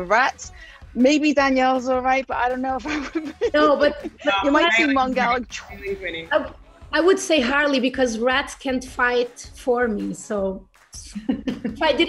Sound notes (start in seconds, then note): 2.8 laugh